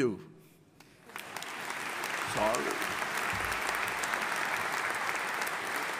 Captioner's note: audience applauding